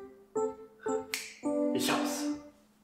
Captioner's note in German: Schnips!